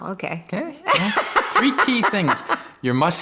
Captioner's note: laughing